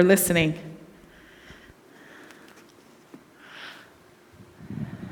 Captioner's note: audience member breathing